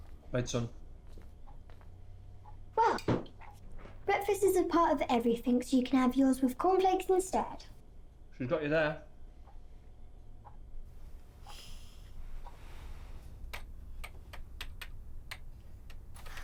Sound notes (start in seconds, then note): 11.2 Oliver sighing; 13.6 keys clacking